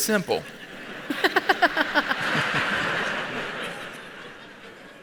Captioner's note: audience laughs